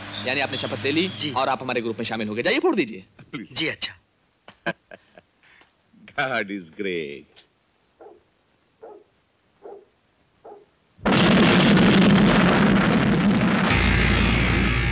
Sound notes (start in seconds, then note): 11.0 explosion